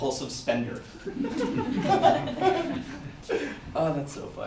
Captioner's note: audience laughter